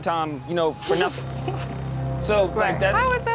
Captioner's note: laughs